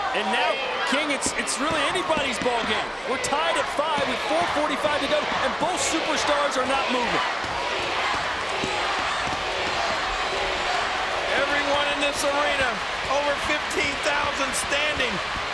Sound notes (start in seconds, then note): 7.7 crowd chanting "Cena"